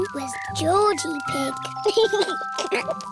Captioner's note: giggles